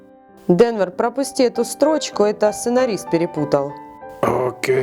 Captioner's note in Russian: голос за кадром